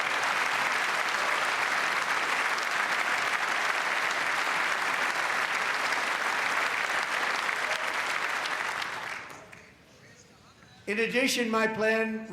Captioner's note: applause